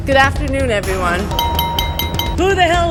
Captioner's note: glass clinking